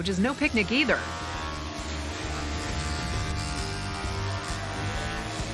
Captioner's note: machine whirring